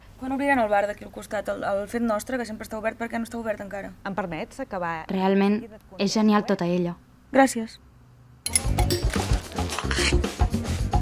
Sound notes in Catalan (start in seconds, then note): 5.1 Veu interna de la Lisa; 8.5 Sona música de transició